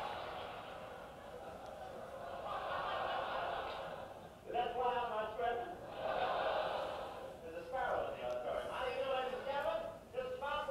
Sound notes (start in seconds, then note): 5.8 audience laughing